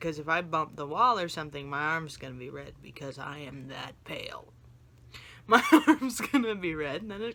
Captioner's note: laughs